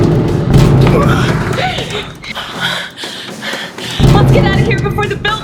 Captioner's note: hollow metallic thudding; gasping